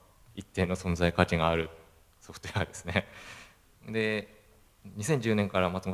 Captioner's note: laugh